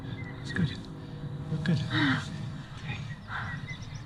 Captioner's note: relieved sigh